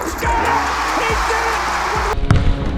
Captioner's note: crowd cheers; ball bounces